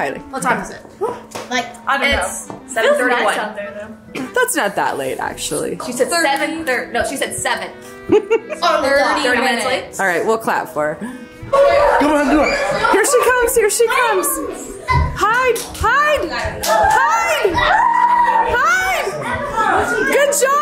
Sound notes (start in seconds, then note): 8.1 laughs; 11.5 family shouts excitedly; 14.3 children chatter excitedly; 16.1 children shout excitedly; 19.7 children chatter excitedly